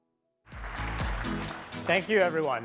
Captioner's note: applause